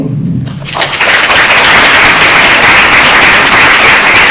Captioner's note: applause